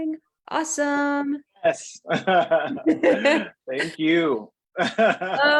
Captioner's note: laughing